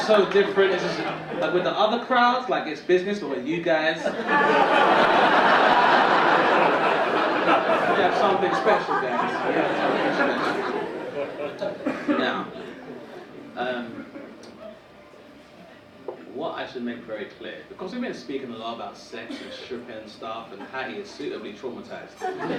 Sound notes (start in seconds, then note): 4.2 audience laughing